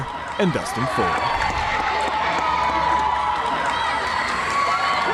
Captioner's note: cheering